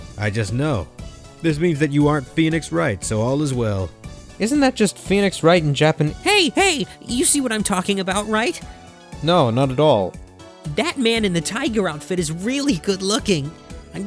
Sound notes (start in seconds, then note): none